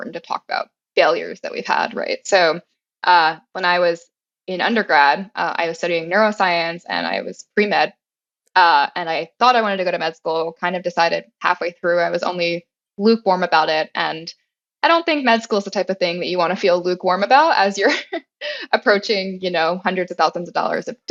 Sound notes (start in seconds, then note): 18.2 laugh